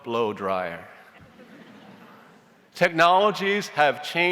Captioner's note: audience chuckles